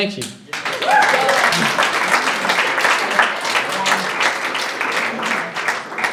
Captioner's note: audience applauding and cheering